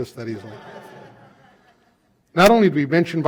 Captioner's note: laughter